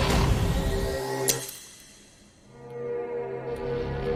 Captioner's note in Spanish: Clic